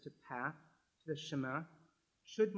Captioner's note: french